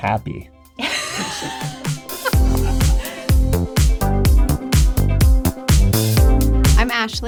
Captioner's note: bright music; both laughing